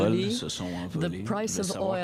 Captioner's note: speaking French